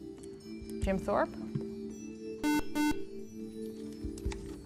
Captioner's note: buzzer